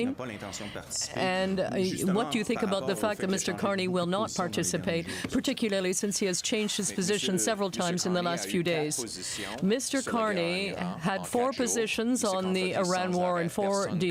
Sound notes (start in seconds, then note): 0.8 speaking French